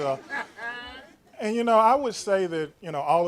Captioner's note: laughter